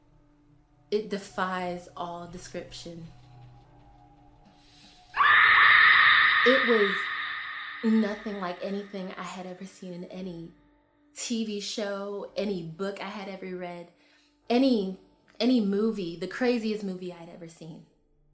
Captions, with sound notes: it defies all description. (screams) It was nothing like anything I had ever seen in any TV show, any book I had ever read, any movie, the craziest movie I'd ever seen.